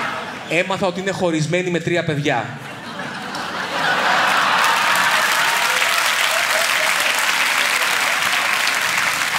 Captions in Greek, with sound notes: ...έμαθα ότι είναι χωρισμένη με τρία παιδιά. (ηχηρά γέλια) (χειροκρότημα)